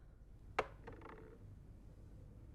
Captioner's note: rolling sounds